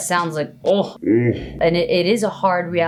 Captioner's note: slowed Deep voice